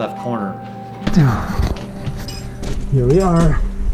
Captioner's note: sighs heavily; scraping and clinking